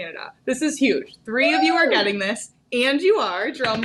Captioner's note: cheering; hands drumming